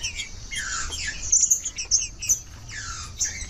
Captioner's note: trinca ferro cantando